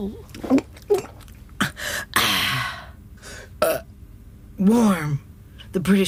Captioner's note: glugs, burps